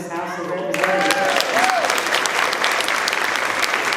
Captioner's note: applause